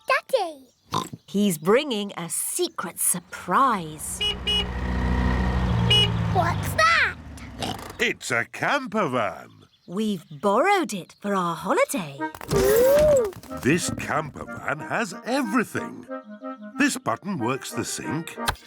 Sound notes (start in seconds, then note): 0.9 oinks; 3.9 horn honks; 7.5 oinks